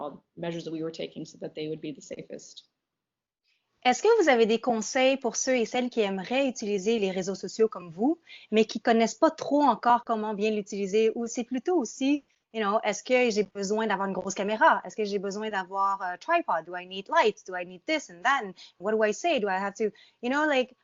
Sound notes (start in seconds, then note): 3.8 speaking in French